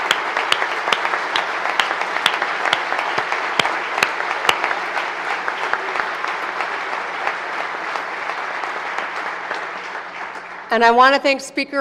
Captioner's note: applause